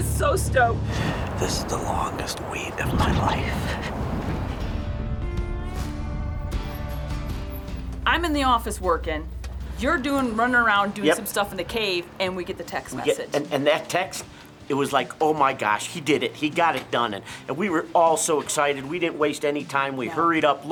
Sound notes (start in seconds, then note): 5.6 twangy music; 7.2 wheels squeaking